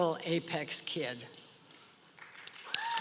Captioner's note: applause